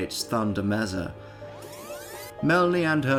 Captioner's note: fast Forward Tape Sound